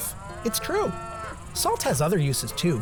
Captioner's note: cows mooing